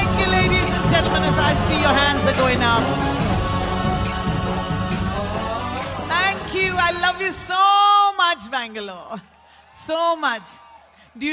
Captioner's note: participants cheering